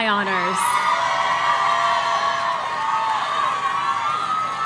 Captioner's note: audience cheering